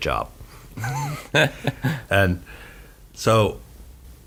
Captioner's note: all laugh